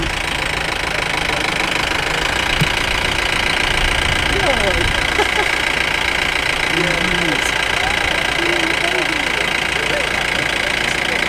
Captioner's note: sound of engines